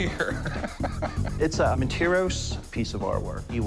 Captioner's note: laughing